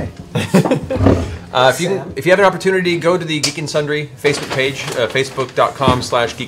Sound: laughs

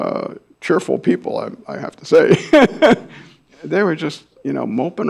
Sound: laughs

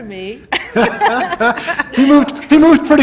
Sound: laughter

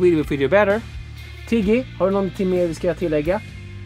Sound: Asking Tiggy in Swedish

